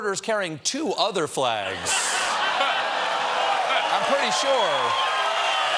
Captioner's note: laughter